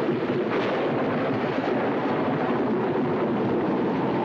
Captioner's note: wind howling